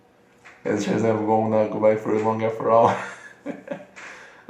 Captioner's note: nervous laughter